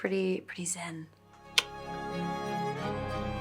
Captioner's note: soft music plays; clicks tongue